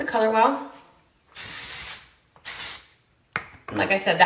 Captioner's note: spraying product